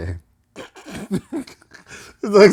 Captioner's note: laughter